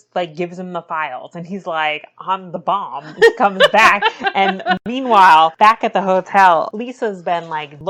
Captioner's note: laughs